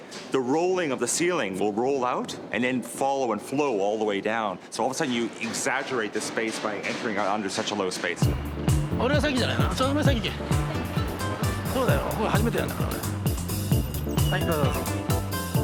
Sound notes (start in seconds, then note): 8.5 upbeat music; 9.5 speaking in a foreign language